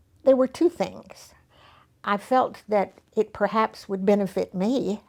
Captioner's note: none